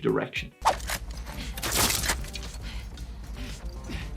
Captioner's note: gun clicks